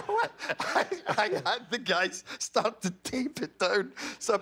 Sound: laughter

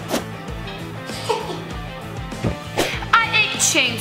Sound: evil laughing

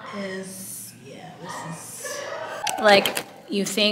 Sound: distant laughter

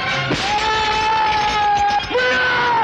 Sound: yelling

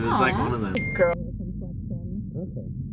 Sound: phone dings

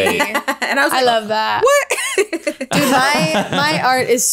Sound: laughs

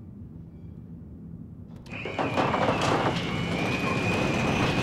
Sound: garage door whirs

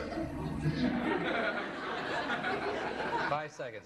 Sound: laughter

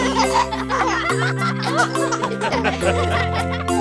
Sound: laughing

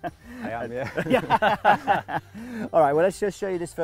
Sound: laughs

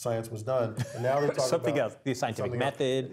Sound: laugh

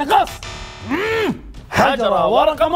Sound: grunts

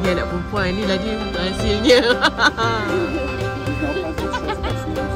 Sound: laugh

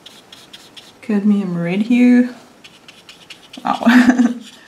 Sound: laughs

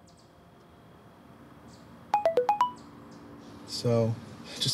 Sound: phone notification tone

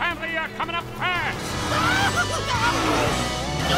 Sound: shouting

